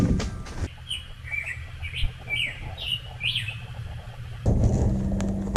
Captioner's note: wood hits floor; gentle bird noises